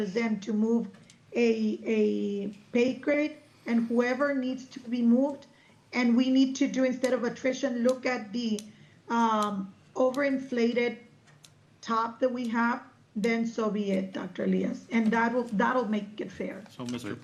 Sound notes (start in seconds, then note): none